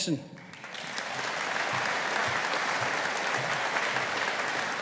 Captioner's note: audience applauding